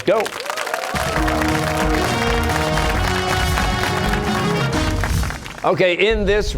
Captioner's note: cheers and applause